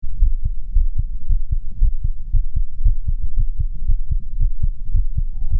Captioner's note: heart Beat